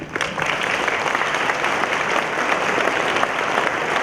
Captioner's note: applause